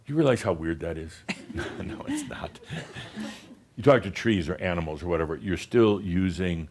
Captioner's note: some chuckles; chuckles